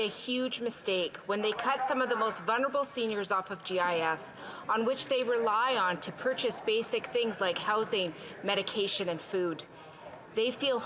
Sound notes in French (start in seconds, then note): 3.9 voix de l'interprète